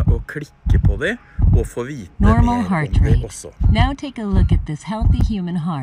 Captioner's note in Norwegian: Snakker på engelsk